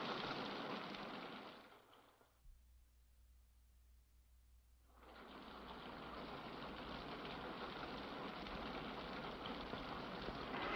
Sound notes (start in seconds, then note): 4.8 rain patters